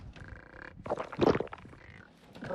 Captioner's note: gulp